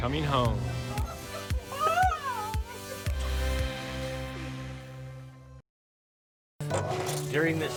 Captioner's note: crying